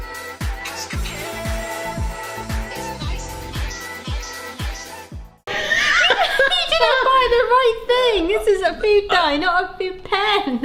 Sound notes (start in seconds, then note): 5.5 both laughing